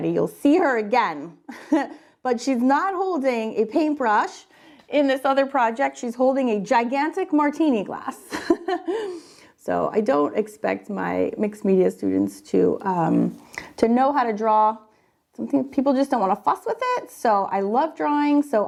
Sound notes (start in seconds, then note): 1.5 chuckles; 9.0 laughs